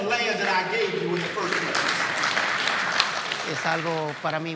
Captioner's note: audience applauding